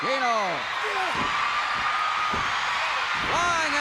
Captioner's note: crowd cheers